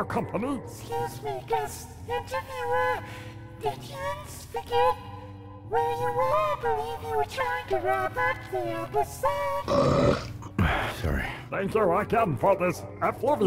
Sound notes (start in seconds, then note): 9.6 belches Loudly